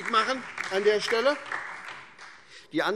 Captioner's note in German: Beifall SPD und vereinzelt Freie Demokraten